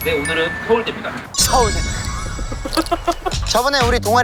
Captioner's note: SNU ta-da